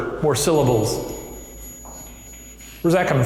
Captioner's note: spirit box chimes